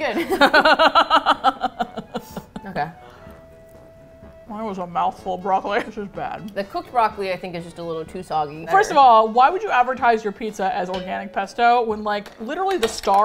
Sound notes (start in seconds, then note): 0.1 both laugh; 3.3 mouth full, muffled